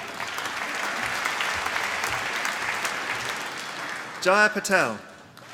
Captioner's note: applause